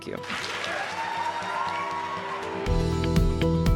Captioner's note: cheers and applause